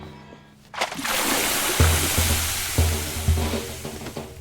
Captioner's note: intense music; water splashing